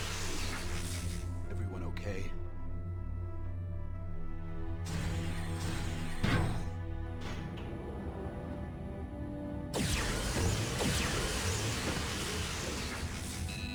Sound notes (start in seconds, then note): 2.9 laser blasts; 13.4 beeps